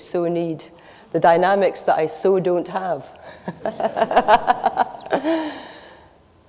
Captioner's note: laughs